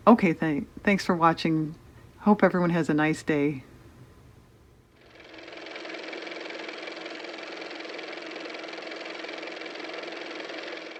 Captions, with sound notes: Okay thank thanks for watching. Hope everyone has a nice day. (car motor)